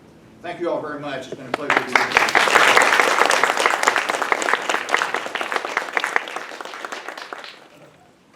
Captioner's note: clapping